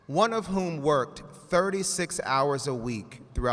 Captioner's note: none